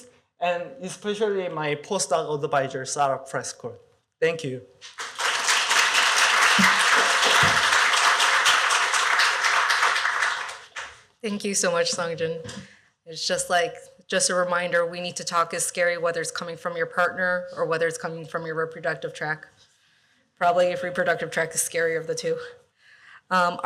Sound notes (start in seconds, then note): 4.8 applause